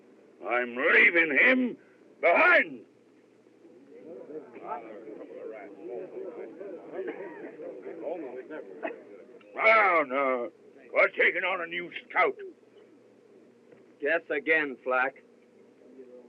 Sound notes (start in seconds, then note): 3.5 chattering